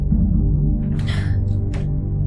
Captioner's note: grunts of effort